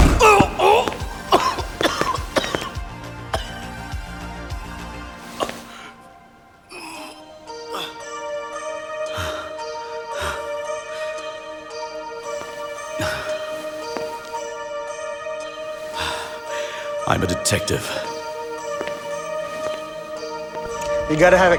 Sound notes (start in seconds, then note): 0.0 Anton cries out; 1.5 Anton coughs; 3.9 slow electronic music; 19.3 slow synth music